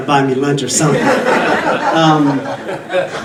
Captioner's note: audience laughing